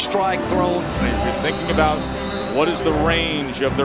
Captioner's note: voiceover